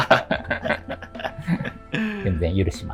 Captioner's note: laughing